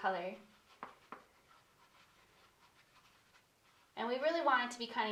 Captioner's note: paintbrush scratching